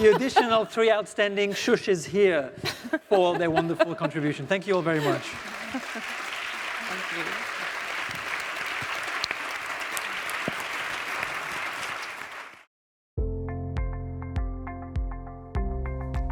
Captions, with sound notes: - The additional three outstanding Sh's here for their wonderful contribution. Thank you all very much. (audience applauding) (calming music)